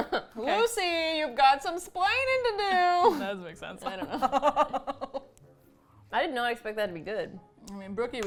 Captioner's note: laughs; both laugh